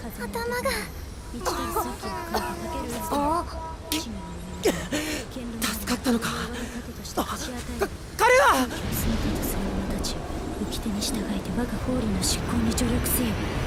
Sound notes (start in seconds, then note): 1.3 cough; 1.4 groan; 7.7 gasp